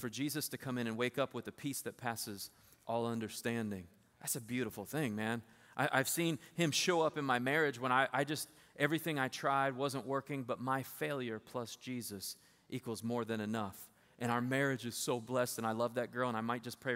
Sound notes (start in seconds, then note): none